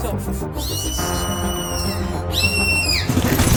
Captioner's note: shrieking sound; gunfire